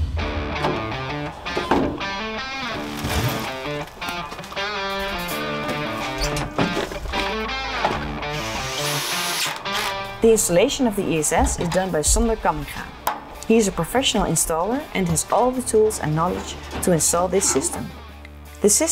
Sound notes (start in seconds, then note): 0.3 uptempo rock music; 8.2 tool whirring